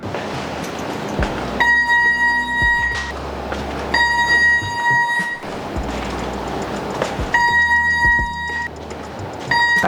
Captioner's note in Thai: เสียงเครื่องตรวจจับโลหะดังขึ้นระหว่างการทดสอบ